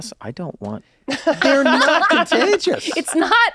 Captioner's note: Rob and Kaitlin laugh